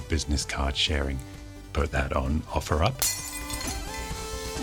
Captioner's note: crashing